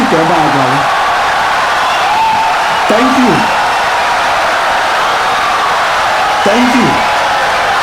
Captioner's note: wild applause and cheering for 17 seconds